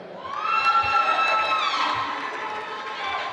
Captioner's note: applause